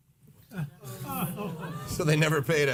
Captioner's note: audience groans